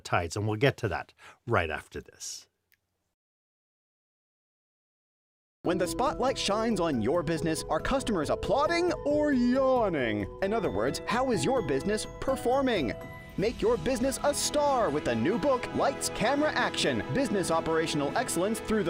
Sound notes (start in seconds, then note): 5.6 voiceover